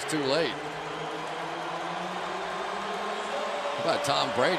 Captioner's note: pa announcement